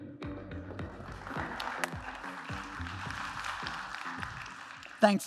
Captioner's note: applause